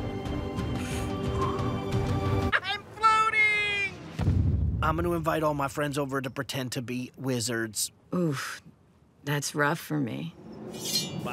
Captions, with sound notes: (puffing) - I'm floating! I'm gonna invite all my friends over to pretend to be wizards. - Oof. That's rough for me.